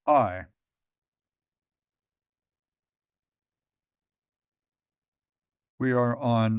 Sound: pause

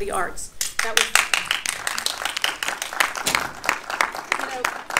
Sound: audience applauding

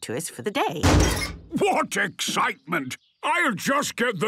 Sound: metallic door bursting

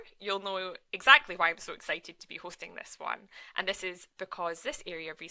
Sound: none

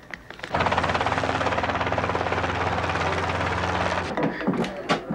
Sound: helicopter chuffing

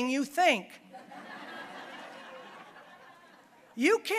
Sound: audience laughing

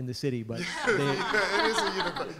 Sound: laughter

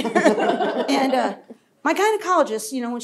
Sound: laughter

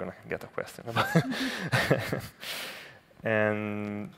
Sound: laughs

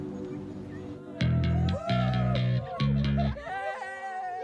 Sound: boys cheering

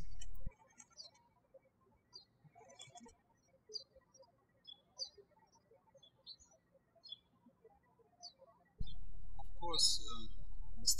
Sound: birds chirping

